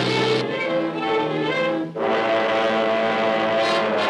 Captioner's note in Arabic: هدير المروحية